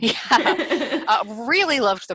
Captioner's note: laughs